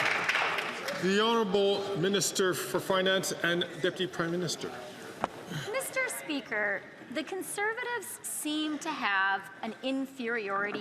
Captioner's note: some Applause